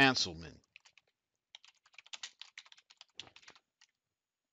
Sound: keyboard clicking

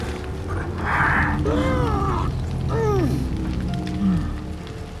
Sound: groans

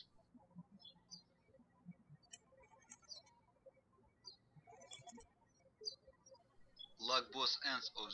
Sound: birds chirping

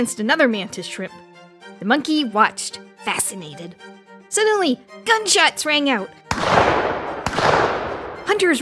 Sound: gunshot noise

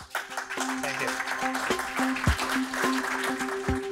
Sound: applause

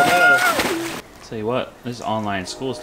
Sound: water splashing; groaning

